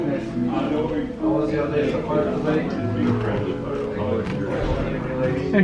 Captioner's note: indistinct background chatter